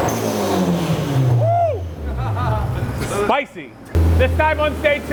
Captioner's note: engine revs; driver laughs